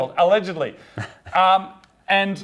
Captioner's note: laughs